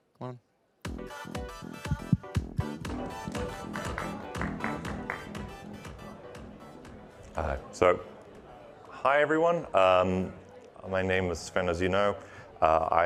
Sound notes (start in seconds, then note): 1.4 upbeat music; 2.8 audience claps